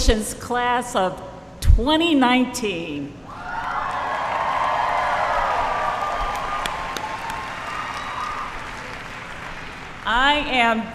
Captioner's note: applause